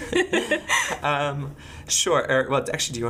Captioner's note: laughing